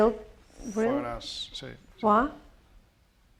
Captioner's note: speaking spanish